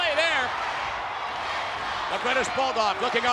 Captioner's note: spectators cheering